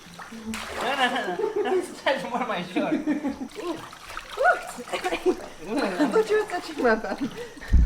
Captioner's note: laughter